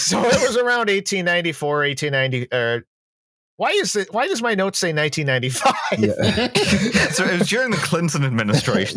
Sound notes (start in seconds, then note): 5.6 laughs